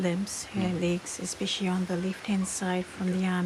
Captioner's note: speaks samoan